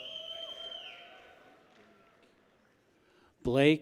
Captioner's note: people whistle